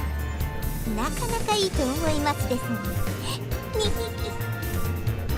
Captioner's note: snicker